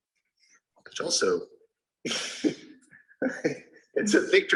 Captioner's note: man laughing